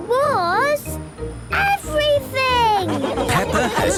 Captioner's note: laughing